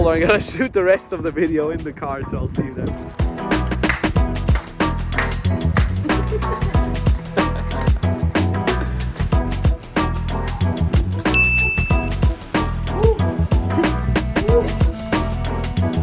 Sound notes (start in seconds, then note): 3.3 upbeat music; 5.9 laughing